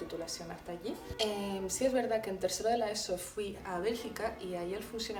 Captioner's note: spanish